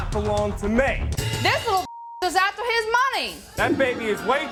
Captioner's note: beep